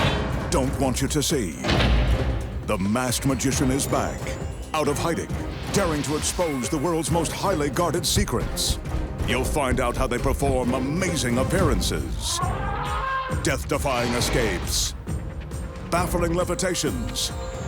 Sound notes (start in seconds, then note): 12.2 elephant trumpeting